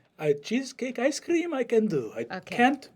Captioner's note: exotic accent